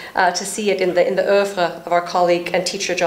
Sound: speaking foreign language

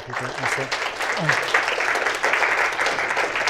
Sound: applause

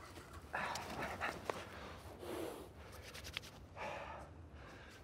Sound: person breathing

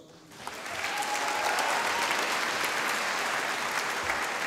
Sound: audience applauding

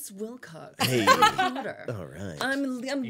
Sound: laughing

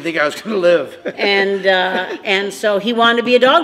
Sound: chuckles

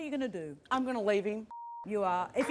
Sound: beeping

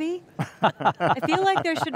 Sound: everyone chuckles

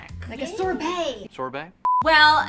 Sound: beep

